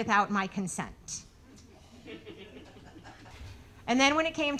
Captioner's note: audience laughing